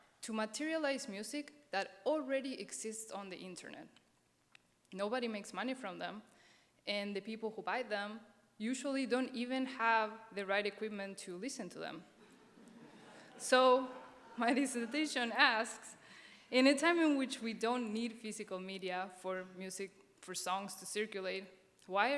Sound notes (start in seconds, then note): 12.2 audience chuckles